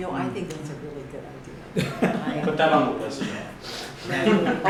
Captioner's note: laughter